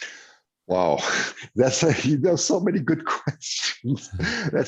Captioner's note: laughs